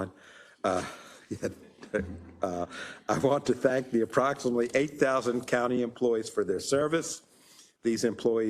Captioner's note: laugh